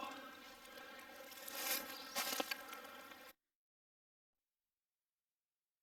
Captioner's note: leaves rustling